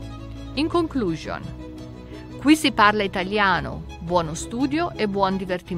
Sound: italian

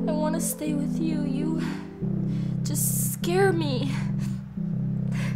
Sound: sobs

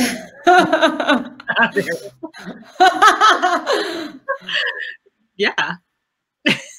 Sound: laughter

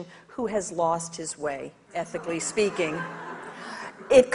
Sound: audience laughs

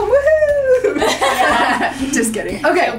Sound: laughing

